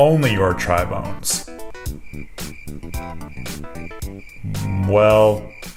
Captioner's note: crickets sound